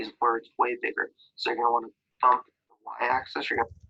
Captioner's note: audio is missing